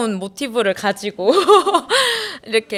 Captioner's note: hehehe